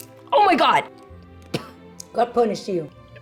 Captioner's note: coughs